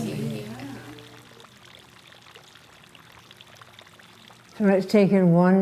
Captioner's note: water bubbling